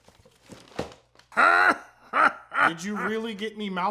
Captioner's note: even weirder laughing